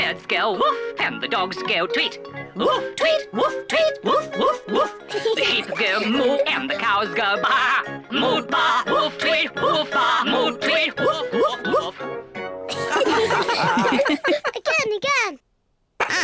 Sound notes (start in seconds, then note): 12.7 all giggle